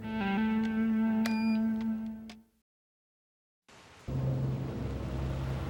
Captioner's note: phone beeping; suspenseful music